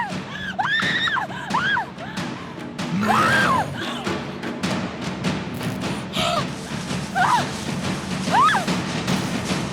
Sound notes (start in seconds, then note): 0.2 screams; 2.3 creature growls; 5.5 gasping